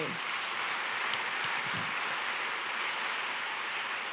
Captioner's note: applause